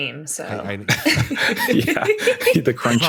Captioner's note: laughter